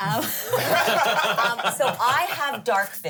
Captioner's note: everyone laughs